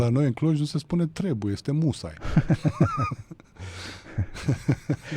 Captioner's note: laughter